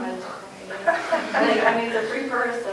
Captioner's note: laughter